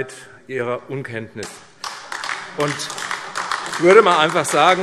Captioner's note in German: Beifall AfD